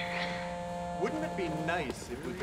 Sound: Brock's phone buzzes

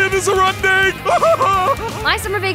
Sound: laughs

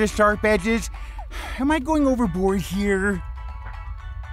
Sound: sigh

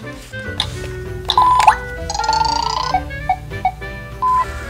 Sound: beeping

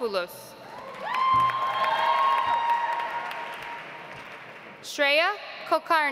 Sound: audience applauds

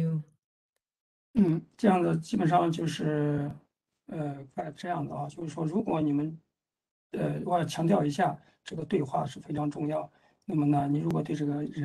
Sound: speaks in Mandarin

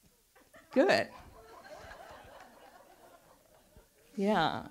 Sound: audience laughs

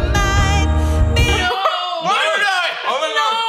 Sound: laughter

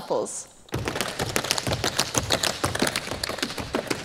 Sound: tap shoes striking the floor

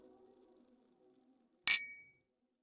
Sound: clink

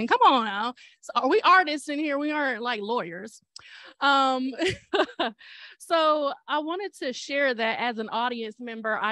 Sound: laughter

